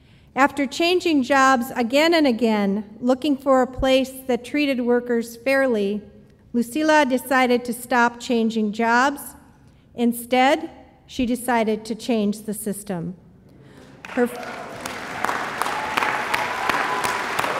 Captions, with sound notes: After changing jobs again and again, looking for a place that treated workers fairly, Lucila decided to stop changing jobs, instead she decided to change the system. (audience applauds)